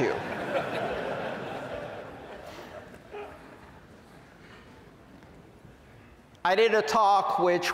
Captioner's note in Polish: Śmiech